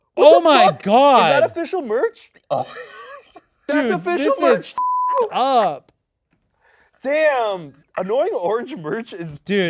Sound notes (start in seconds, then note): 2.5 laughs